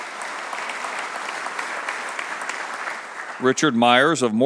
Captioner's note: applause